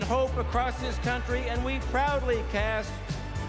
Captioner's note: none